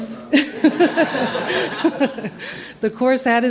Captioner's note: laughter